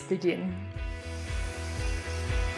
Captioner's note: wind blows; upbeat music